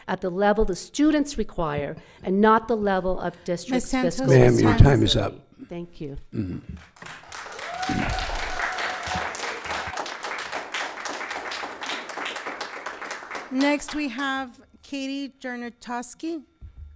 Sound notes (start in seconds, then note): 6.9 audience cheering; 7.1 audience applauding